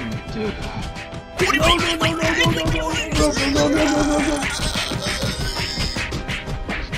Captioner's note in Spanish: mas ruidos de pelea